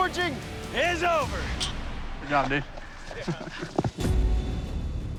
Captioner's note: laughs